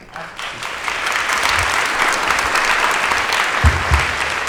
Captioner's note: audience applause